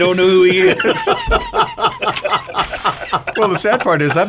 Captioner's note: all laugh